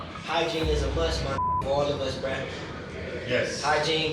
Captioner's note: beep